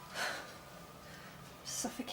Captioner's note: sighing